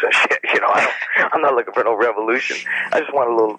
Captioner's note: laughs